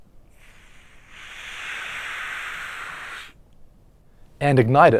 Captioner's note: sounds of gas entering a balloon can be heard